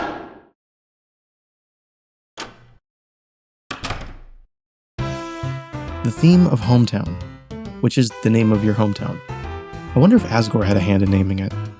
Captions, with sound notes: [door opens] [door shuts] The theme of Hometown, which is the name of your hometown. I wonder if Asgore had a hand in naming it.